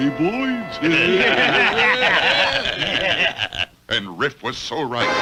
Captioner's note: Riff's Men Laugh